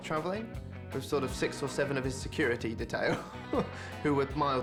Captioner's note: laughs